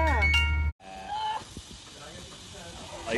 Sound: straining

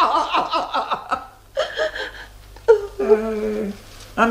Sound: he laughs heartily; the girl cries

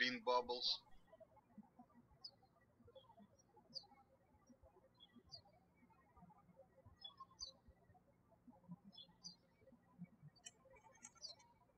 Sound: birds chirping

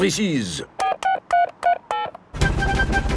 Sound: dialing

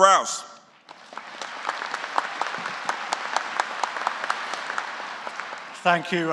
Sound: applause

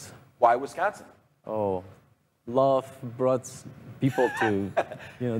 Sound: laughs

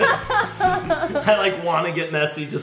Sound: laughing

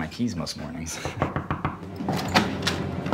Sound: agressive knock

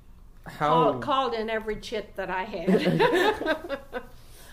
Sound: laughs

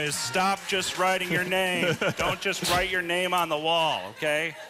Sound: laughter

